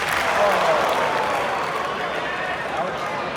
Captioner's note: crowd claps; crowd groans